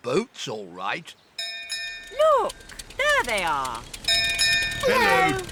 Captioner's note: bell rings